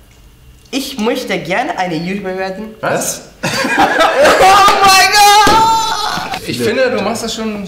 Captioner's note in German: Lachen